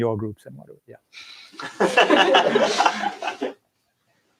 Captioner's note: laughter